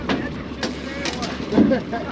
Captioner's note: reel cranking; background chatter; chuckling